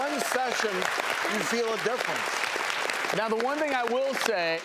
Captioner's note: clapping